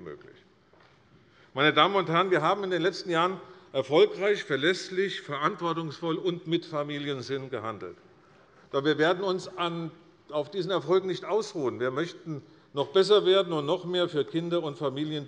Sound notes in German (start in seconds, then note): none